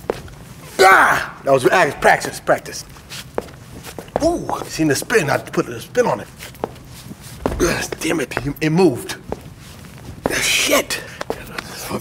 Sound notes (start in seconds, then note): 0.7 grunts